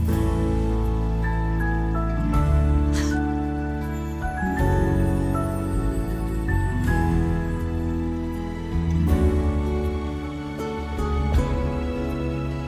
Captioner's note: Jackie chuckles